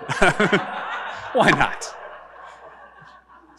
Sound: audience laughing; laughing

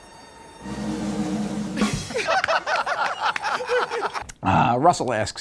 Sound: laughter

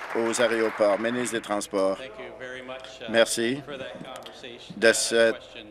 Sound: applause

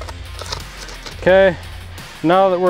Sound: rough scratchy sound

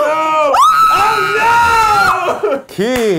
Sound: screaming

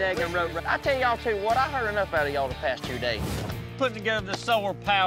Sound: none

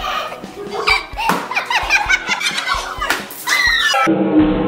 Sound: kids laughing

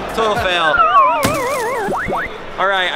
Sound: video game failure sound

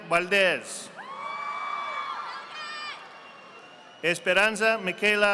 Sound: audience applauding

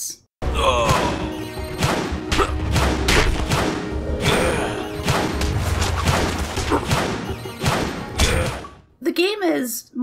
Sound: epic Battle Noises

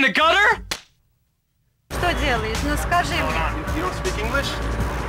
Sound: speaking Russian

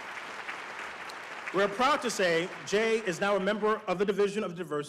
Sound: applause

